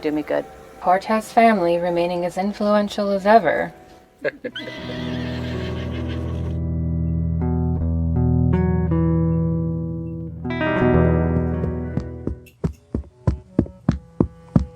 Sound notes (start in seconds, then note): 11.0 running steps